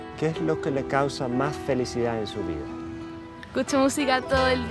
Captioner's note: speaking in foreign language